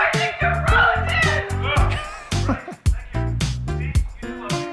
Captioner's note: laughing